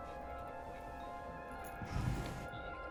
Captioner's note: noise from earpiece